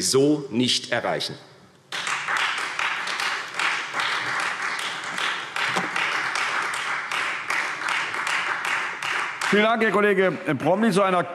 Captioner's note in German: Beifall Freie Demokraten und vereinzelt SPD